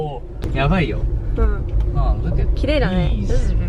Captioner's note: speaking foreign language